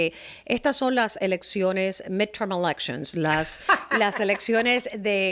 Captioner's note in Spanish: Hablando ingl\s